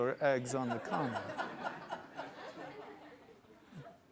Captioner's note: laughter